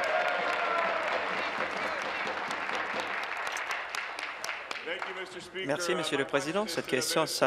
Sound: applause

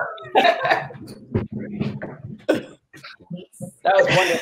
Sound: laughs

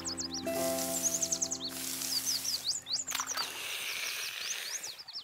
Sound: birds chirp; slurping and spraying sounds

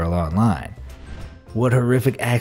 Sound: air whooshing

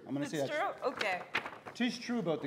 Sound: paper rustling

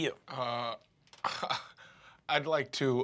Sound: chuckles

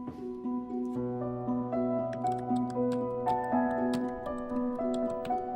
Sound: typing

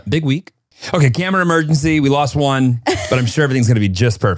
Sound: laughs

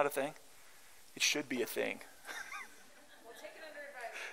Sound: laughter

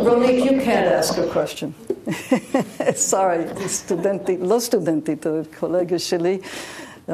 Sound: laughs; speaks Hebrew

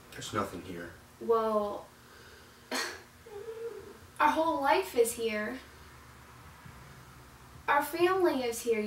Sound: chuckles

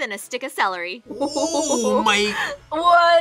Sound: laughs

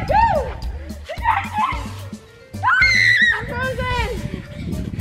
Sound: screaming

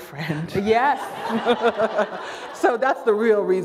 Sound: laughter

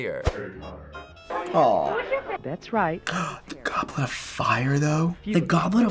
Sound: gasps

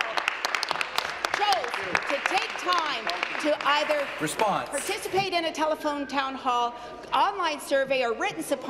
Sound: applause

